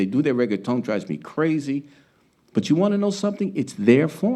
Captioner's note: speaking Spanish